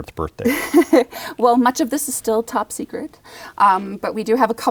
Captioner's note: laughs